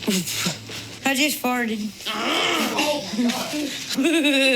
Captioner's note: laughs